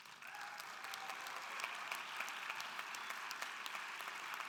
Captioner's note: audience applauding